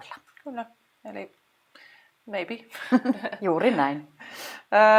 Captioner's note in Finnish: Naurahtaa